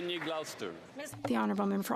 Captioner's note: applause